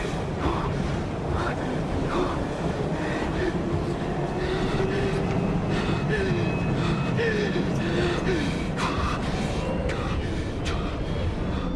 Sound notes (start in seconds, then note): 0.2 exasperated hyperventilating; 4.7 jeevan panting, weezing